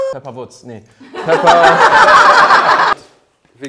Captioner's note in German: Lachen